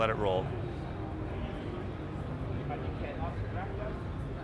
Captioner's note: people chattering